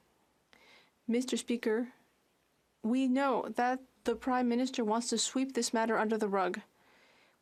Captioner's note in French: voix de l'interprète